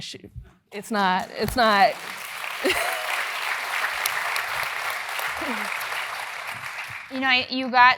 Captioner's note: applause